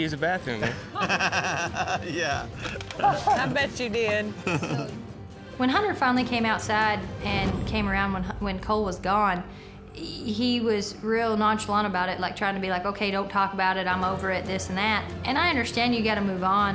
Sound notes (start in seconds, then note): 0.6 laughter